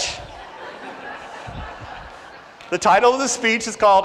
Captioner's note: audience laughs